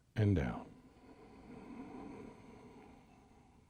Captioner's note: exhales